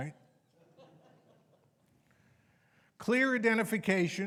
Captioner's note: audience members laughing